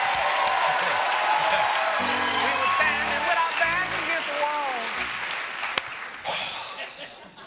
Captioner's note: cheers and applause